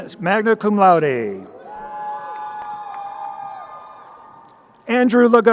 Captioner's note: crowd cheering